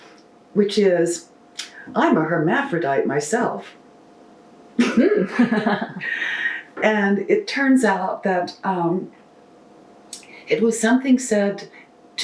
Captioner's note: laughter